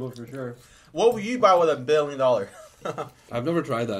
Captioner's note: laughs